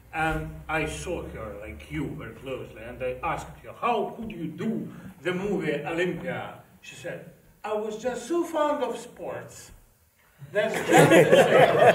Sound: laughter

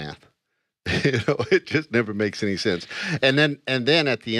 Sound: laughs

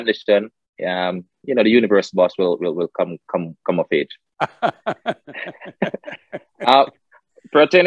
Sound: Sadhguru laughs

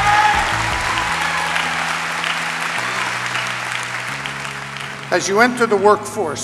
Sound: applause

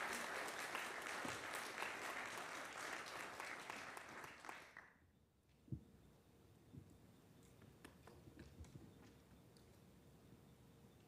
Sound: applause

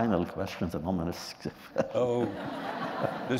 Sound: laughter

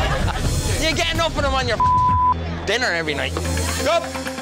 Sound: laughing; beep

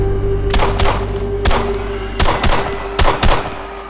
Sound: gunshots; screaming

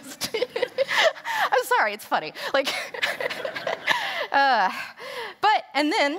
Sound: laughter

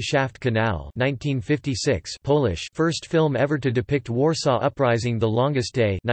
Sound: Polish

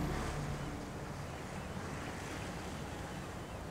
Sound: wave sound

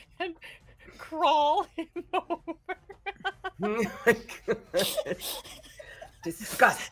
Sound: laughing

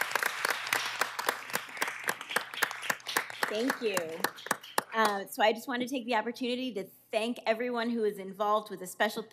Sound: cheers and applause

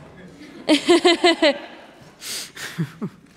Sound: laughter

